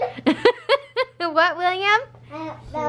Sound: laughs

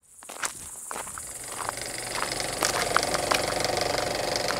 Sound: filmstrip running

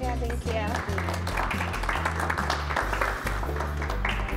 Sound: applause

